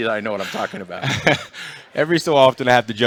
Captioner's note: laughter